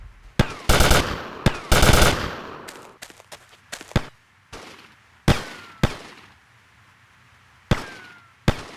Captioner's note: gun fires; gun fires